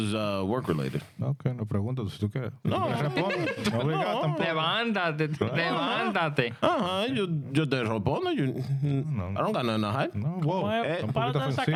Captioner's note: speaking In Foreign Language